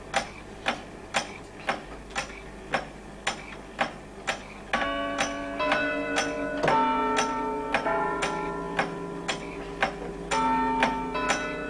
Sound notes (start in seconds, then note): 1.0 ticking and whirring; 4.7 chiming